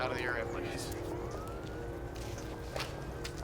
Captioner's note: sirens